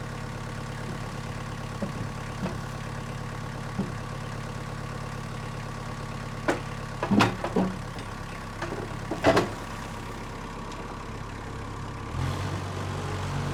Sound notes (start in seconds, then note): 7.0 wood thuds; 9.8 engine revving continues